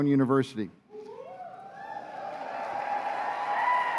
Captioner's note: cheers and applause